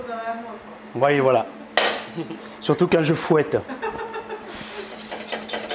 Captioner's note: laughs